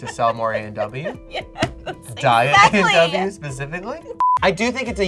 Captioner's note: laughs